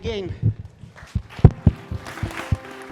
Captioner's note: applause